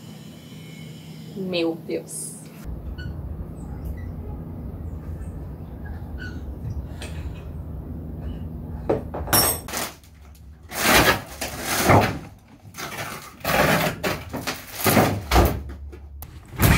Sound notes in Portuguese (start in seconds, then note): 6.1 Barulho de ferramentas